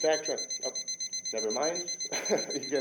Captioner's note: beeping sounds